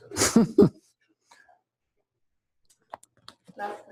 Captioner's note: pause